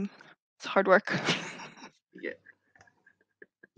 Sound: laughs

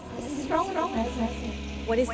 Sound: echoing

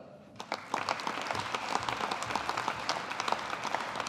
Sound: audience applauding

